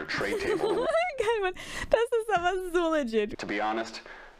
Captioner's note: laugh